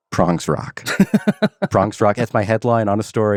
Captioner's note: man laughs